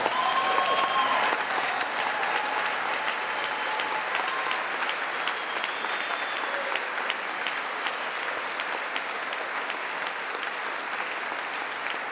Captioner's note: applause